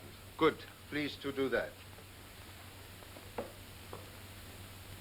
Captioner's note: none